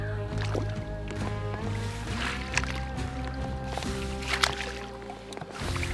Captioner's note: water rhythmically splashing